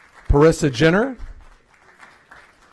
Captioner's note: applause